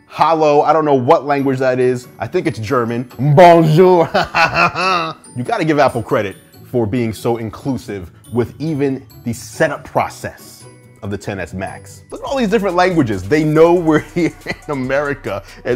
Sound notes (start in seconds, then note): 3.3 laughs